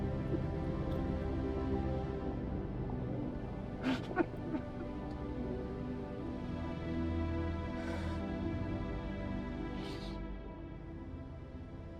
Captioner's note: Richard sobs quietly